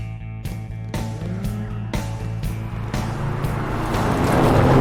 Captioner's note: none